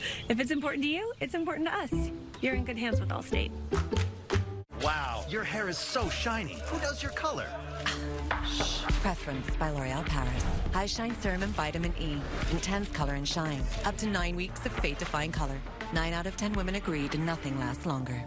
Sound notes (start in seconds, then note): 6.6 scoff